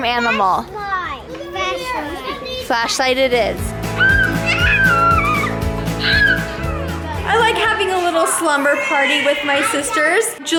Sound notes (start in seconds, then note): 4.0 screaming